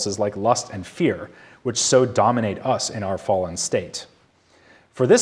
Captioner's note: none